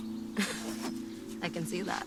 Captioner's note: Cassie laughs